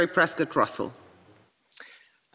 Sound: speaking French

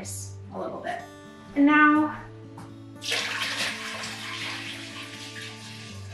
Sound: water pouring

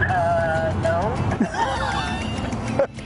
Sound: laughter

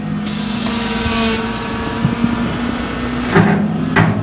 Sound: engine revving

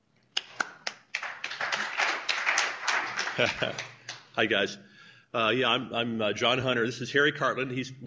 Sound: applause

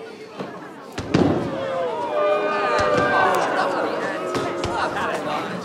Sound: crowd booing and complaining

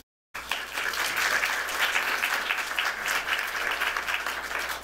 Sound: applause

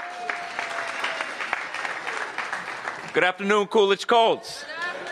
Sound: applause

